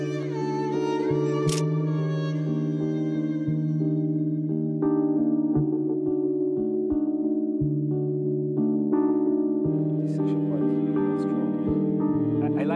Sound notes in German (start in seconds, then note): 1.5 Klicken